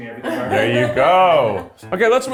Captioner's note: laughing